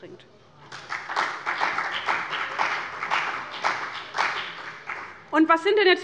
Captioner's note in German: Beifall bei dem BÜNDNIS 90/DIE GRÜNEN und der CDU